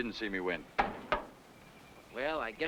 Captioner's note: iron knocking